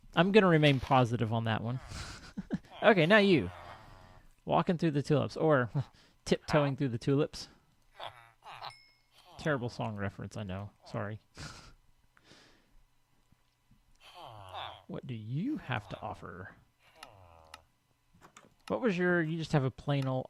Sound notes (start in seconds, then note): 0.0 chattering continues; 1.6 laughs; 12.2 laughs